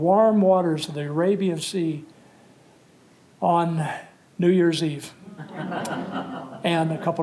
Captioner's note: laughter